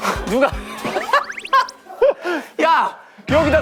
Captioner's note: Phì cười